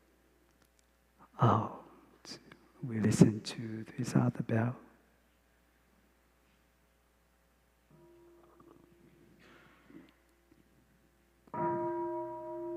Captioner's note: bell x3